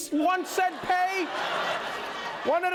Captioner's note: laughter